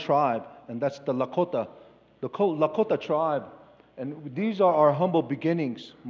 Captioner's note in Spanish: Expositor habla en inglés